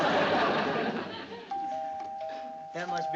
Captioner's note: doorbell ringing